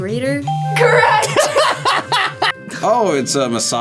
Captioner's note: both laugh